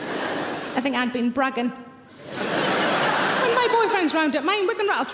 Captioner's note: audience laughing; audience laughing